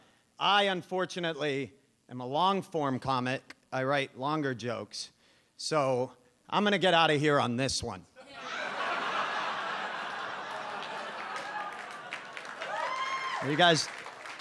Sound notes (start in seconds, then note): 8.2 audience laughs; 13.0 audience cheers